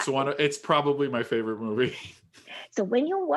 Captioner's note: chuckles